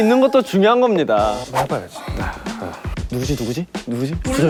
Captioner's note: confident